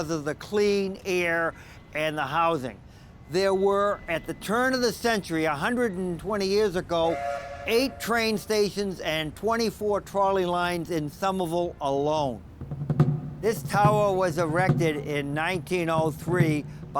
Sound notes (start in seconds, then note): 7.0 steam train horn; 12.4 drums play